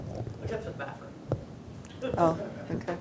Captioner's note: audience speaking indistinctly